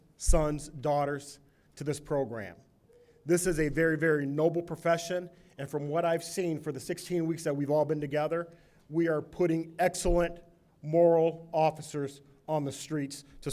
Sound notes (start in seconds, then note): none